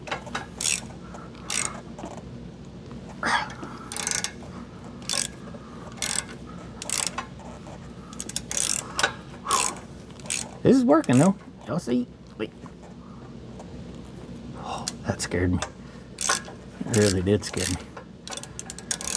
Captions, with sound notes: (Grunts) (Metal Clanking) This is working, though. Don't see, wait. That scared me. It really did scare me.